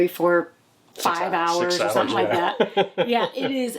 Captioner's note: laughs